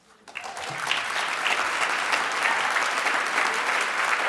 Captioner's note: audience applauds